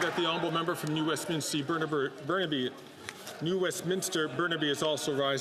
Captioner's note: some Applause